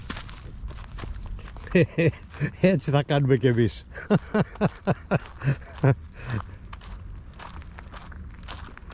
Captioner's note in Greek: γέλια